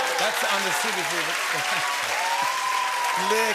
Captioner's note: cheers and applause